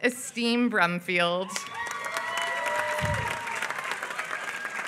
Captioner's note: applause